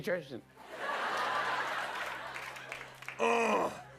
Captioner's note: laughter